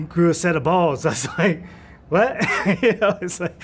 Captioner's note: laugh